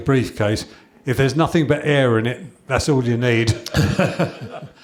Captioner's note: chuckles